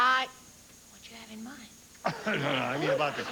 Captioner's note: whispers; stammers